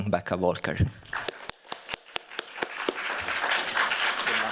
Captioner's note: applause